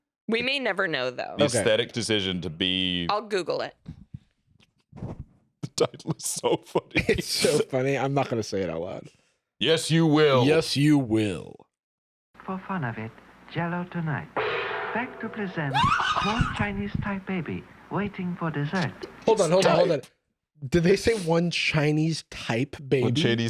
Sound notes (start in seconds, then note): 5.7 laughing; 14.4 gong